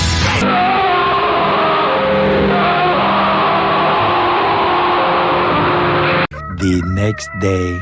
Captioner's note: William Afton screaming and burning in hell